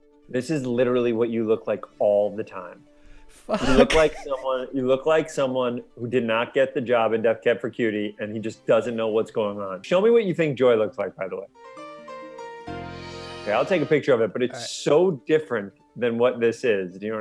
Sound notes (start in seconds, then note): 3.5 laughs; 11.7 happy music